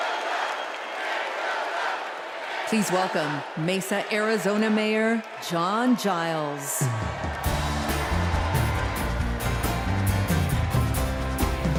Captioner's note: crowd chanting